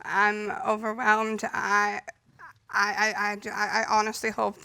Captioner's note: stammers